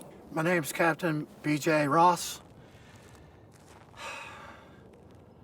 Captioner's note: sighs